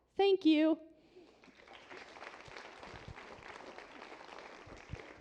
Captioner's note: applause